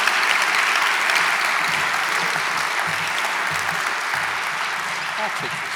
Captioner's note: audience applauding